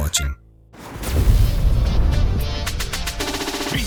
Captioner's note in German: BK42 Logo-Explosion